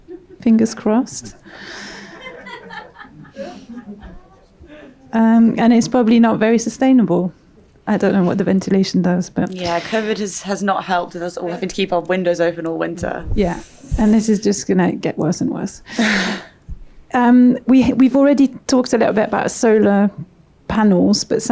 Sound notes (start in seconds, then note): 1.4 audience laughs